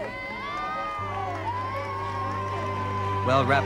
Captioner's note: crowd cheering